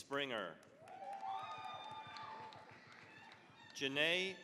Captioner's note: cheering, applause